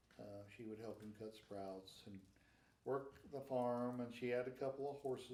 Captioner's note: none